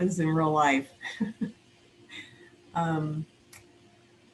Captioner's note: chuckles